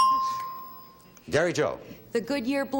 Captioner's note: ding